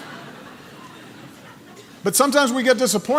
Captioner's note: laughter